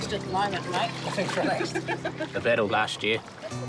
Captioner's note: laughs